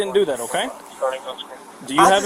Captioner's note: radio chatter